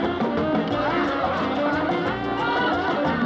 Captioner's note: giggles